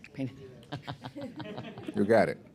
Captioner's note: laughter